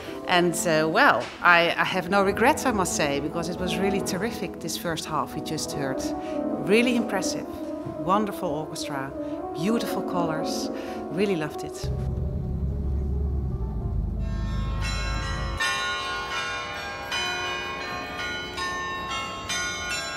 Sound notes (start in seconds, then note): 11.8 car rumbling; 14.3 bells chiming